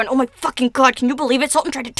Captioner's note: none